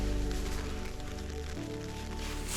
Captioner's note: light rain on tent